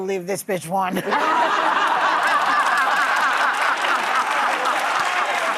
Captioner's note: audience laughs